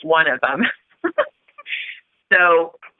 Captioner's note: chuckle